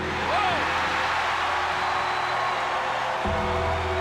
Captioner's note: ominous music; audience cheers